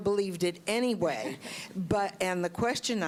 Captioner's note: laughter